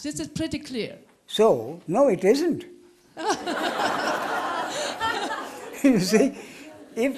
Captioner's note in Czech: smích